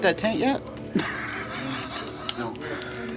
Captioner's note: laughs